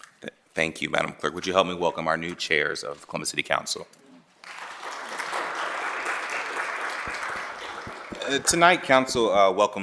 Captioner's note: applause